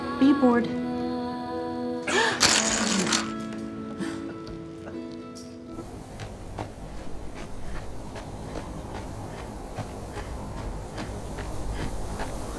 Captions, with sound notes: Are you bored? [gasps] [laughing]